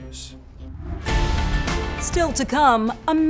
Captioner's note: graphics whooshing; exciting music